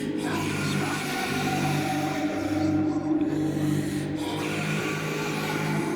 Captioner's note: Celtic voices whispering